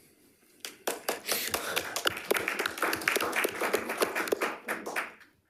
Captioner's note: crowd clapping